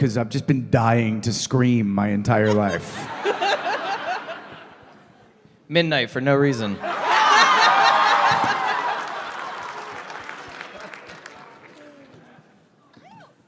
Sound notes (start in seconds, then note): 2.4 laughter; 6.8 more laughter; 7.6 applause